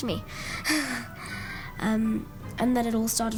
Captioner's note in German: lacht